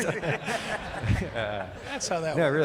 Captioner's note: laughing